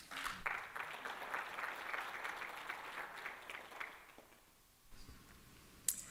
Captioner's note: applause